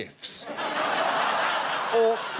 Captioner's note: audience laughing